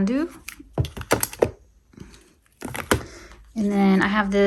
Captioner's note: item thudding